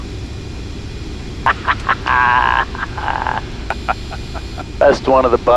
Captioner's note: laughs